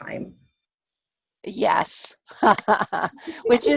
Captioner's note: laughs